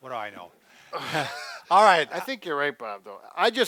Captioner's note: chuckles